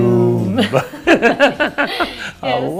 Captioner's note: laughs